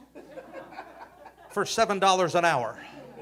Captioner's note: audience laughing